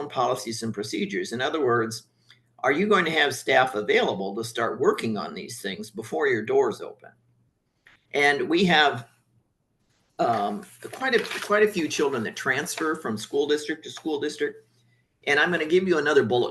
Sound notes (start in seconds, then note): 10.2 papers shuffling